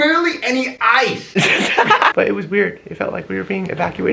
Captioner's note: lols